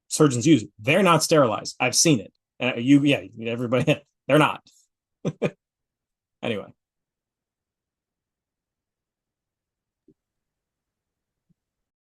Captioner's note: laughs